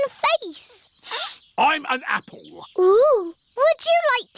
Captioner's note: sniffs